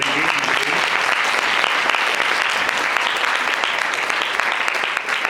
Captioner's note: audience applauds